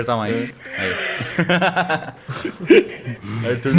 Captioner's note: laughs